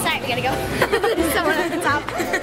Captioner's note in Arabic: يضحك